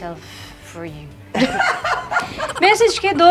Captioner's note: laughs